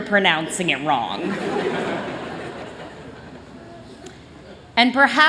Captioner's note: laughter